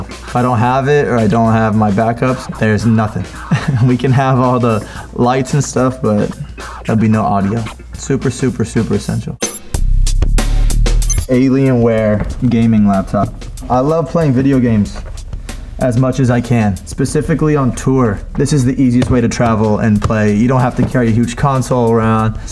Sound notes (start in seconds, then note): 2.2 laughs; 9.4 upbeat music